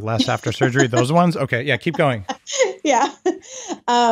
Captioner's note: laughing